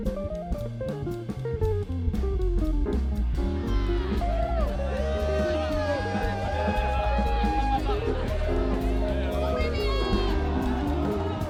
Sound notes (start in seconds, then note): 1.5 playful music continues; 5.3 students cheering and screaming